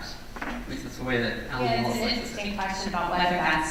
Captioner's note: voiceover